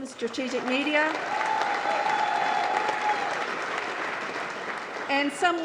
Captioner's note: applause